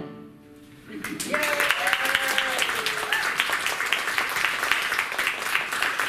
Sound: applause

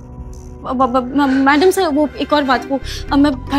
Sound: stammers

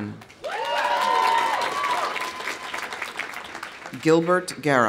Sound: audience applauding; audience cheering

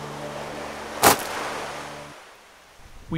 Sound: chomp sound

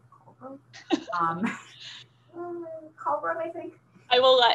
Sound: laughter

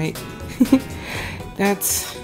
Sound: giggles

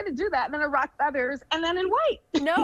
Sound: giggles

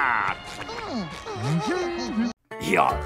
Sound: humming

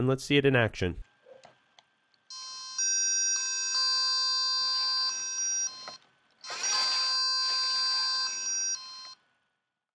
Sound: tone sounds

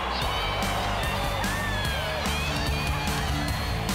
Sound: cheering wildly

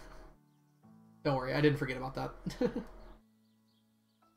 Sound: laughs

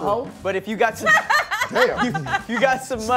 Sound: laughing

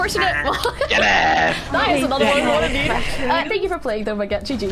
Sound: murmuring

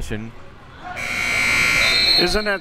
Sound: buzzer

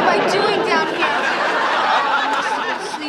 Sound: audience laughing

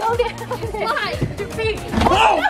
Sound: chuckles

